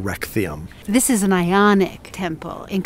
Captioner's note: voiceover